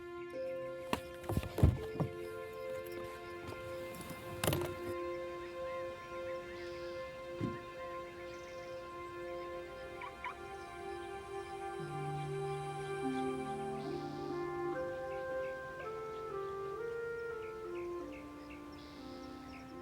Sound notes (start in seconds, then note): 7.5 birds chirping continues; 7.5 bright music continues; 10.1 car alarm chirps